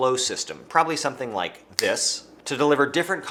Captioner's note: fingers snapping